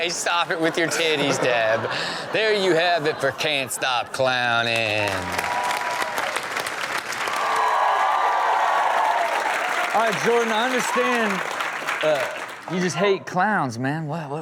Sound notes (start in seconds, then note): 4.8 audience cheer and applaud